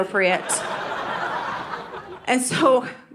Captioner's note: audience laughing